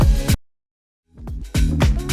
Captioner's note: music stops; subtle pop music